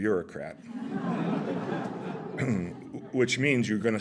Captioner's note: laughter